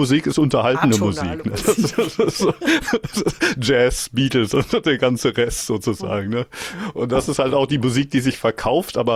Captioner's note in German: gelächter